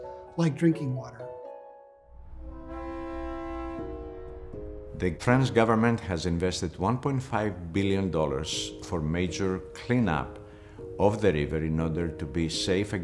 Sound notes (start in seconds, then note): 2.3 horn from passing boat